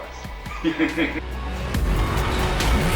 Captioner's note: laughing